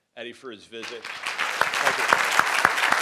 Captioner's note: crowd applauding